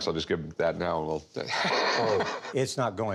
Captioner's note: laughs